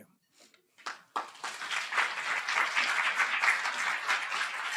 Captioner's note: applause